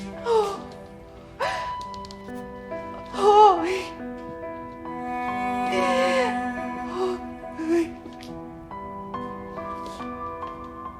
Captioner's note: crying